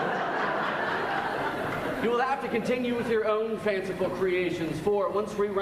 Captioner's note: laughs